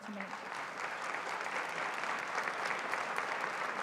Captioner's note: applause